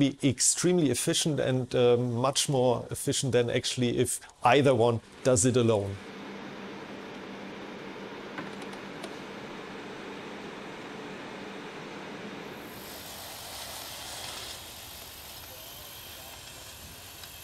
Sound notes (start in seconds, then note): 12.5 rover whirring